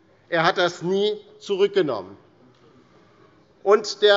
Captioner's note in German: none